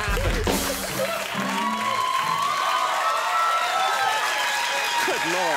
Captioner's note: audience cheer